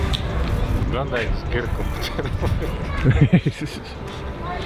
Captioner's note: both laugh